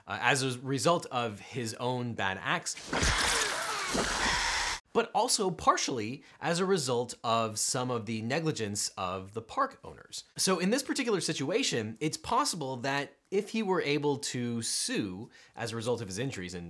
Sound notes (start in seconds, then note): 2.7 groans; 2.9 dinosaur screeches